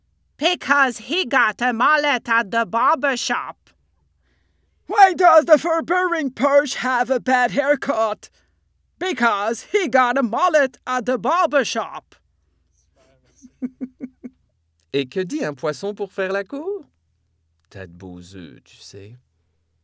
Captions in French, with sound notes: Because he got a mullet at the barber shop! Why does the fur bearing perch have a bad hair cut? Because he got a mullet at the barber shop! [rires] - Et que dit un poisson pour faire la cour? T'as de beaux oeufs tu sais?